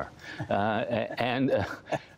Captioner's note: laughter